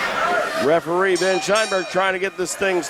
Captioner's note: match bell rings